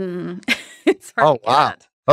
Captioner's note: chuckles